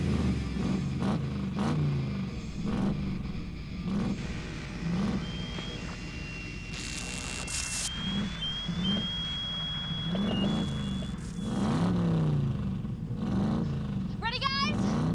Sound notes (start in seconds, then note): 0.0 loud engine acceleration; 7.6 whistle; 9.6 alarm; 11.1 loud engine acceleration